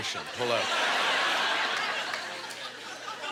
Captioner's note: audience laughter